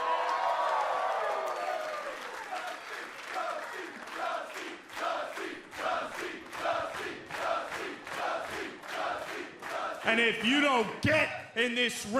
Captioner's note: crowd cheering